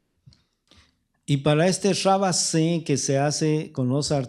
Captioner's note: speaking spanish